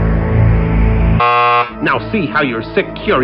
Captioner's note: tensed music; buzzer blares